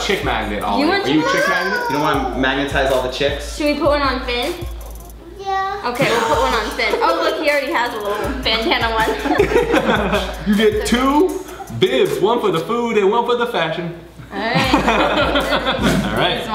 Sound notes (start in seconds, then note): 5.9 Collins laughs; 9.2 they laugh; 14.4 they laugh